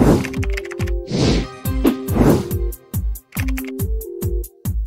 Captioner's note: keyboard keys click